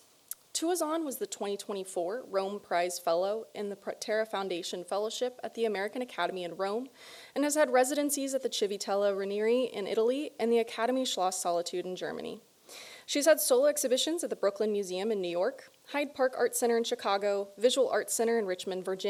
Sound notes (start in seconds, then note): none